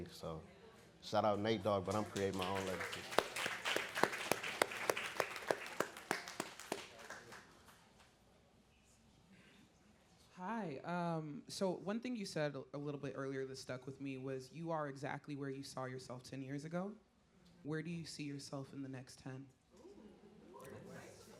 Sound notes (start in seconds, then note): 3.4 audience clapping